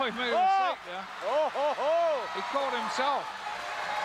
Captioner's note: laugh